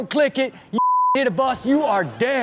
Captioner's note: beep